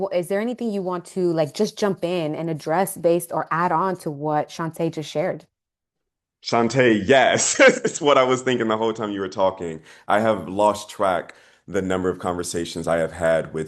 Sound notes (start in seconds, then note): 7.1 laughing